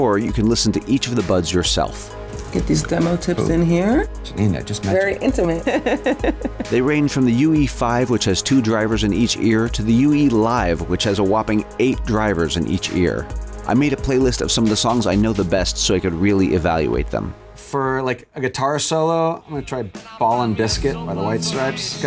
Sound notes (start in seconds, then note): 5.4 chuckles